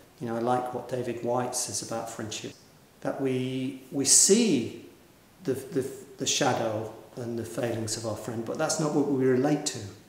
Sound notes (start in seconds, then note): none